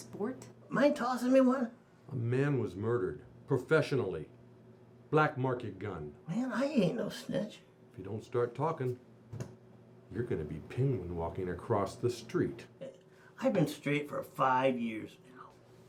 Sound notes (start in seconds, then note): none